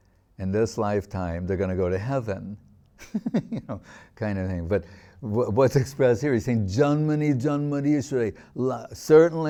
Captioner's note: laughing